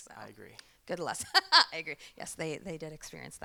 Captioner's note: laughs